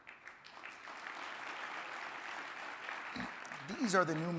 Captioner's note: audience applauding